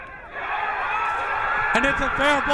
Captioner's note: crowd cheering